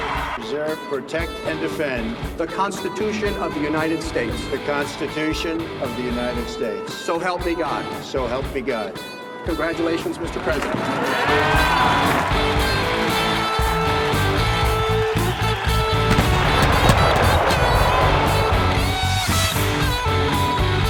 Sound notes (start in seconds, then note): 0.0 crowd cheering; 0.1 rock music; 11.5 crowd cheering; 16.0 canons firing; 18.4 rock music